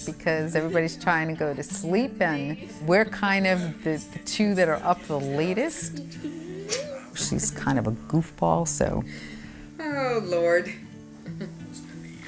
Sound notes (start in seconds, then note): 6.6 lips smacking